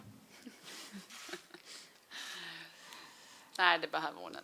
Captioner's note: Seger laughs